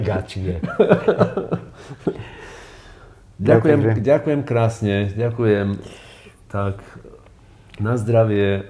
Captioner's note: laughs